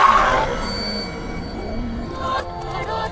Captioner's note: Totoro roar